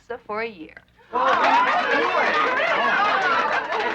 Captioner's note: cheering